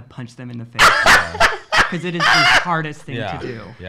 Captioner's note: laughs